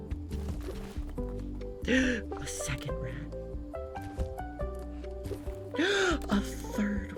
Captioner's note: gasps